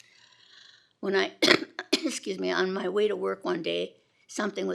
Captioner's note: gently coughs